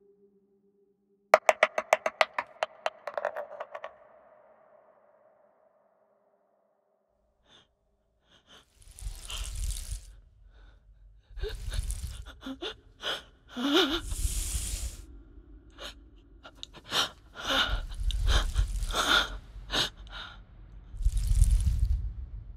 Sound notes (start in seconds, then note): 1.3 dice rolling; 8.7 snake slithering; 9.1 terrified breathing; 14.0 snake hissing; 17.5 snake slithering; 17.5 terrified breathing